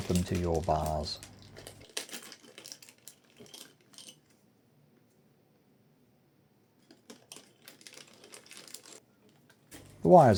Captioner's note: silence